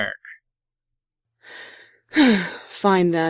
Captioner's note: Celestia exhales